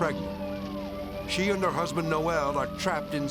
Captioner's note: sirens blaring